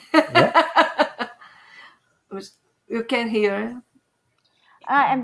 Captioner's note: laughter